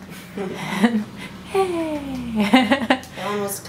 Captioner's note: laughs, laughter in background